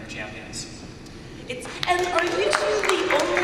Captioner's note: applause and cheers